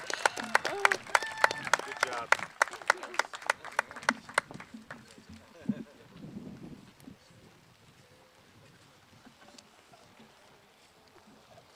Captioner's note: cheers and applause